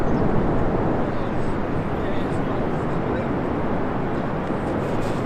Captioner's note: air whooshing